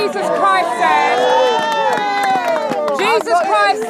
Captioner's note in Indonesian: Crowd ejekan dan tepuk tangan